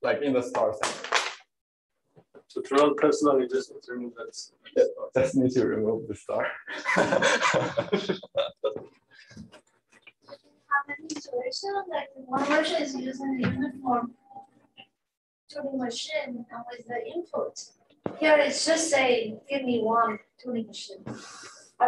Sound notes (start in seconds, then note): 6.3 laughs